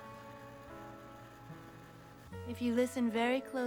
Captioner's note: whirring